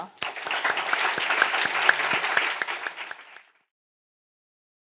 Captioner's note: audience applauding